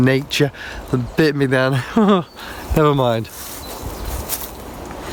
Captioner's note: laughs; birds chirping